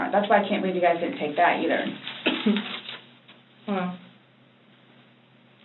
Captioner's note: coughs